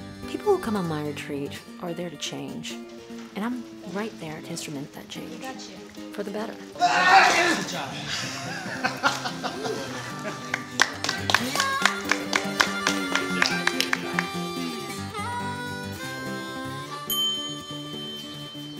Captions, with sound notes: People who come on my retreat are there to change. And I'm right there to instrument that change... We got you. ... for the better. *MAN YELLS OUT* Good Job! *MAN LAUGHING* *CLAPPING* *CHIME*